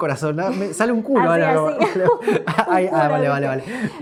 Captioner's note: laughs